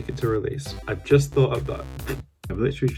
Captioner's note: raspberry